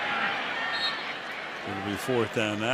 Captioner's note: whistle blows